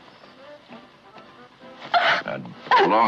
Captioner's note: gasps